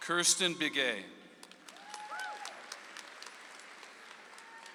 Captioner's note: audience applauds